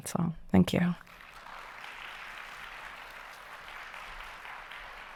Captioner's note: audience applauding